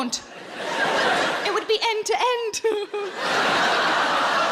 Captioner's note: audience laughing; chuckles loudly; audience laughing